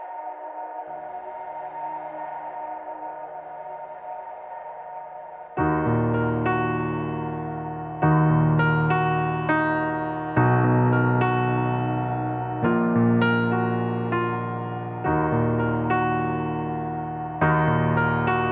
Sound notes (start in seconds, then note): 0.8 ethereal wind whispering; 6.1 piano playing